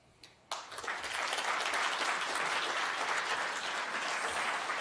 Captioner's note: audience applauds